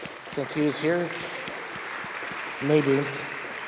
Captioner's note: students applauding